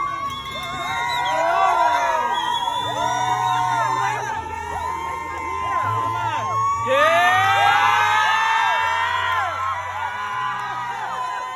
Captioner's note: cheering